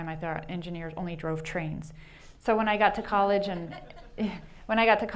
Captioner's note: chuckles